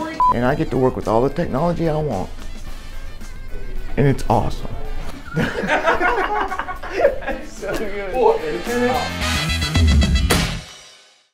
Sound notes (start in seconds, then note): 5.2 laughter